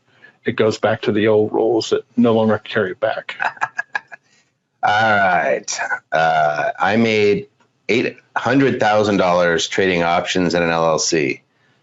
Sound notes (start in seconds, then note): 3.5 laughs